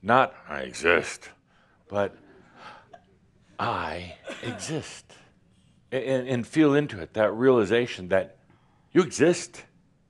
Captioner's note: grumpily